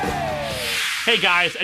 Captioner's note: whoosh